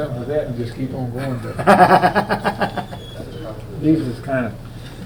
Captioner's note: laughing